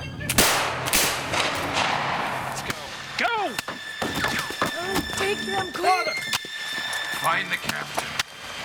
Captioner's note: gunfire